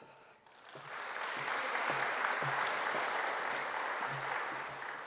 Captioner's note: audience applauding